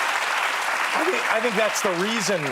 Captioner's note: applause